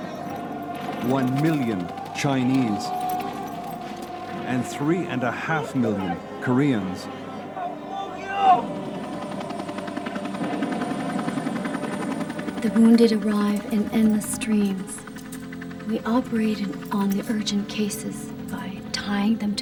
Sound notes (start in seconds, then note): 7.8 speaking in foreign language; 10.7 helicopter whirring